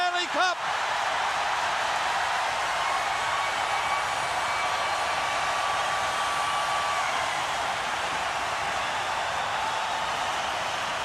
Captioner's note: crowd cheering